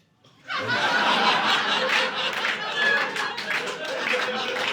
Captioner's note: audience laughing